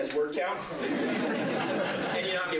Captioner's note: laughter